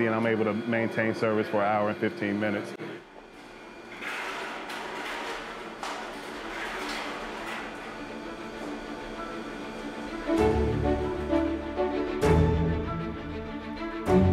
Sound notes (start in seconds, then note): 4.0 pots and pans banging; 10.8 light orchestra music